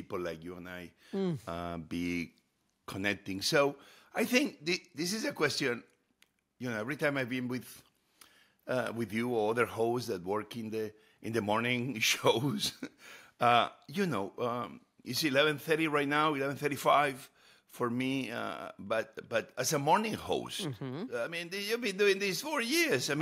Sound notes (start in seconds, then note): 12.5 chuckles